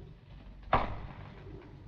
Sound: footstep approach

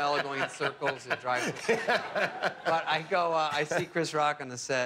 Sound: laughter

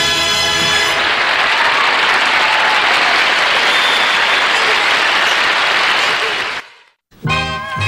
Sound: applause

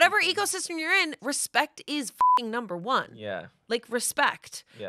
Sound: beep

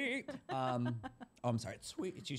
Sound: laughter

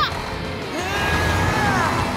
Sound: straining

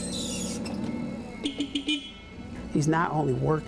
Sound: beep

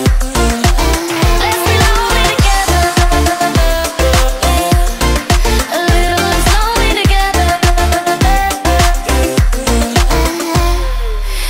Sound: electronic Effects

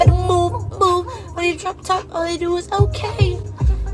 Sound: voice crack

